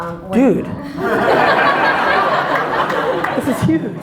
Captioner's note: audience laughter